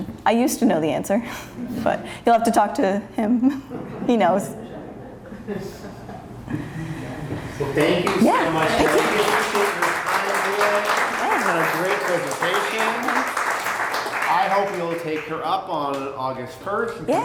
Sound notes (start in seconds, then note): 9.0 applause